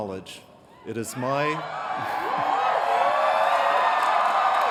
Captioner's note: cheering